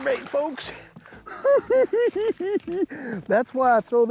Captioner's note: giggling